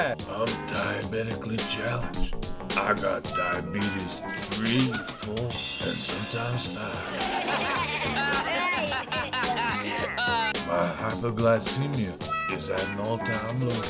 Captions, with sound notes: I'm diabetic-ally challenged. I got diabetes 3, 4... and sometimes 5. (Gang laughs) My hypoglycemia is at an all time low.